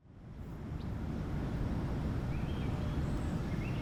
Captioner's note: birds singing